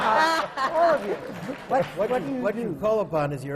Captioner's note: laughter